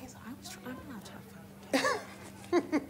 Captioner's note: speaking faintly; laughing